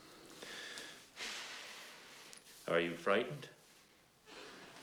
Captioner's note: exhales